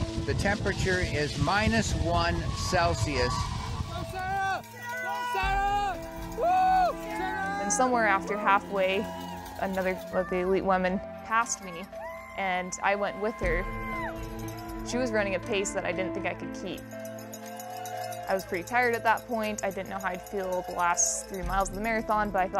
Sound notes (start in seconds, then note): 4.8 cheering